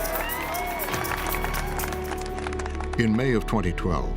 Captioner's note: cheers and applause